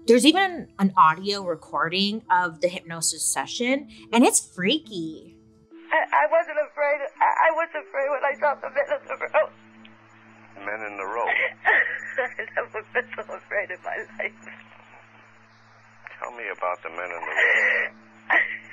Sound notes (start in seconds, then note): 11.1 crying